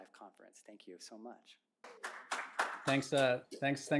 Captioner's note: applause